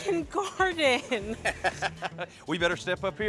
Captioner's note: laughs